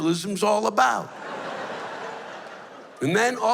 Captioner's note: laughter